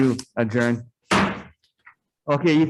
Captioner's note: gavel thuds